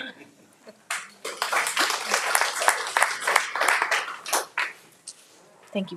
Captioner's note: audience applauding